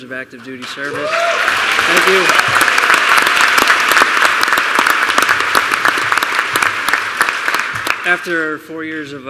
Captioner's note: applause